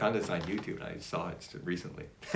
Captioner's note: laughs